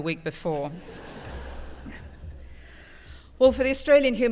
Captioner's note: laugh